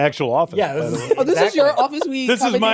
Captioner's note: laughter